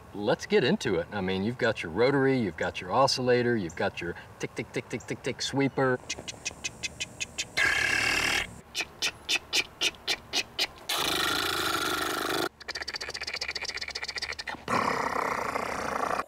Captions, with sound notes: Let's get into it. I mean you've got your rotary you've got your oscillator you've got your tick tick tick tick tick tick sweeper. *Makes sprinkler noises*Tik tik tik tik tik tik.... *Makes sprinkler noises* chk, chk, chk, chk, chk, chk *Makes sprinkler noises* chk, chk, chk, chk, chk, chk